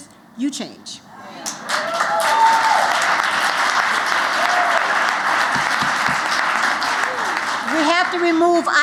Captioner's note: applause